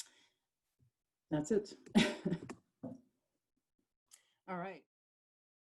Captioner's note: chuckles